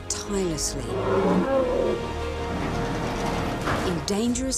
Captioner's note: elephant grunting